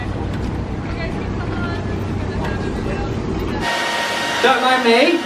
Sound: indistinct background chatter

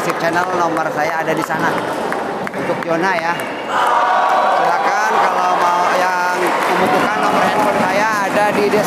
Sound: applause

